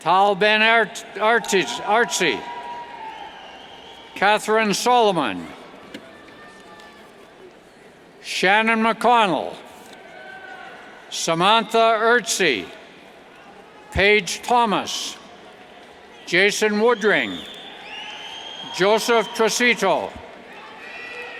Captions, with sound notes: Tal Ben-Artzi, Katherine Solomon, Shannon McConnell, Samantha Erzi, Paige Thomas, Jason Woodring, (whistles) Joseph Tressito, Max Maitin,